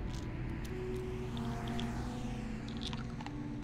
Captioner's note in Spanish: Vehículos silbando a lo lejos